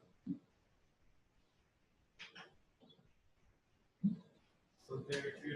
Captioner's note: pause